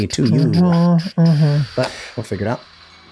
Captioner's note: everyone humming